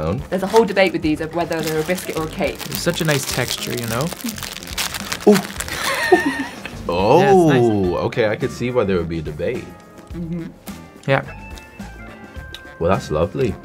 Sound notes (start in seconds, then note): 5.7 Jake laughing; 11.3 mellow melodic music